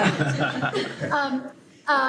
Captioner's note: laughter